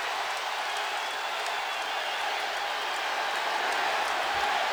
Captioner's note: audience cheers